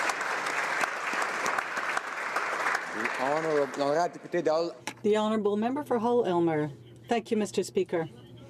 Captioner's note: applause